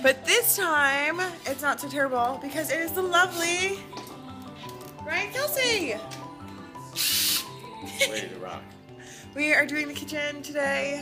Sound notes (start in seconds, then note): 6.9 drill whirs